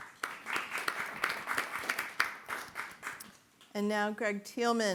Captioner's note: audience applauding